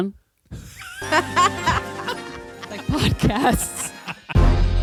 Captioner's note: laughter